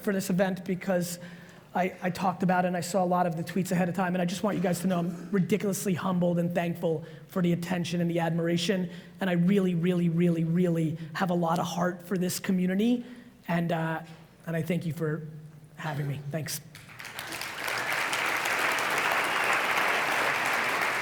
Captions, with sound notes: for this event because I talked about it and I saw a lot of the tweets ahead of time. And I just want you guys to know I'm ridiculously humbled and thankful for the attention and the admiration. And I really, really, really, really, have a lot of heart for this community. And, I thank you for having me. Thanks. (audience applauds)